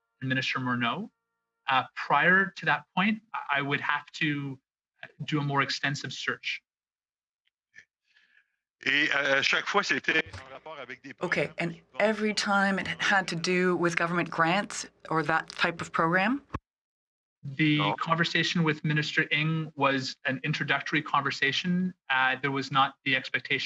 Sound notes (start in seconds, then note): 15.5 speaking French